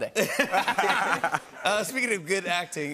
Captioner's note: laughter